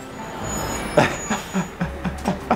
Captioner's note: breaks squeaking; laughing